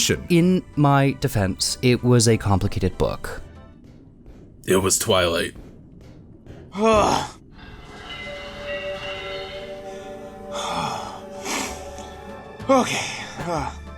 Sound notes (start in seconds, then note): 6.7 groans